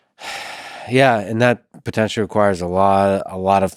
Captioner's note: sighs